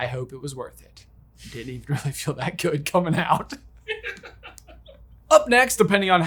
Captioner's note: laughs